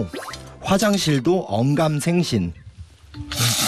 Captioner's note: slurping